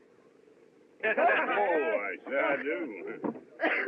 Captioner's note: windy; Zeke Chuckles